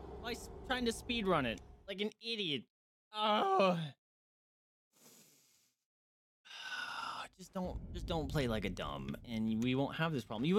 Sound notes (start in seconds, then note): 3.2 groans